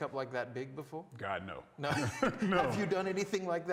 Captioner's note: laughs